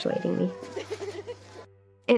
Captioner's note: giggles